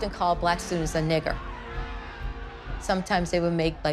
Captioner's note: crowd shouting in background